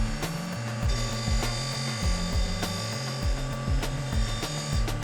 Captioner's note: machine grinding